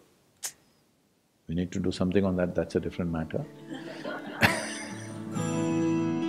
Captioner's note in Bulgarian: Смях